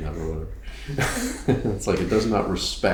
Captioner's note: chuckles